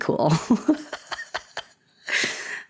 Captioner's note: laughter